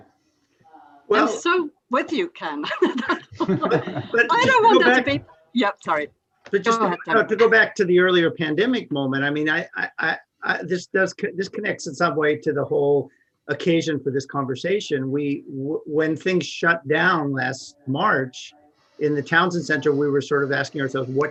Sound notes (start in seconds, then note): 2.6 laughs